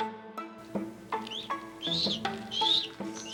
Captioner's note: chick chirping